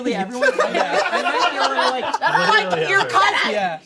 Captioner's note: everyone laughs